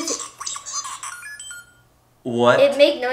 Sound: droid chirping

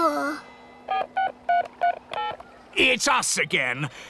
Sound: dialing

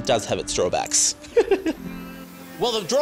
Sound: chuckles

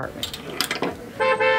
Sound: keys jingle; horn honking

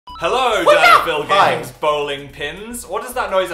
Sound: hi-yAH

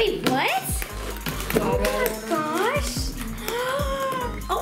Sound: gasping; gasping

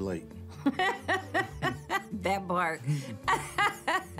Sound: laughs

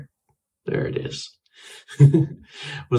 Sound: laughs

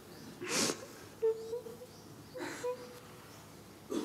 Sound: questioner 3 crying

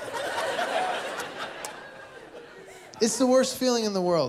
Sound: laughter

